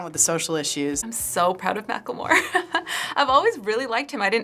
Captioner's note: laughing